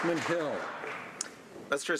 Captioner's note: some Applause